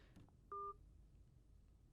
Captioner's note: beep